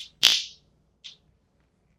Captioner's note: zap